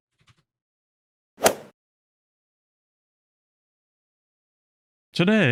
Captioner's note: golf ball hit sound effect